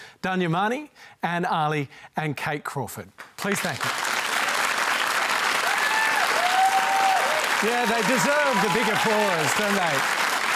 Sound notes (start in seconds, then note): 6.2 cheering